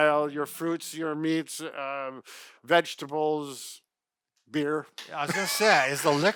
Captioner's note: laughs